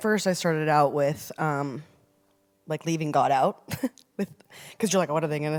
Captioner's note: chuckles